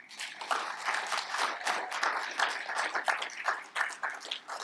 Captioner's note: audience applaud